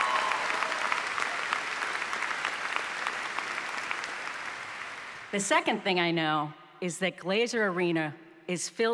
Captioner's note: applause